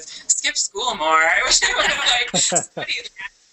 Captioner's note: laughter